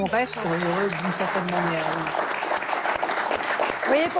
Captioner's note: applause